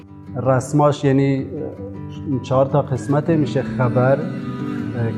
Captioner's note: speaking foreign language